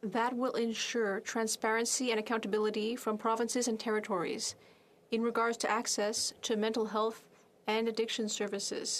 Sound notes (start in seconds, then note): 1.7 speaking French